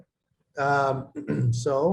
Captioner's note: clears throat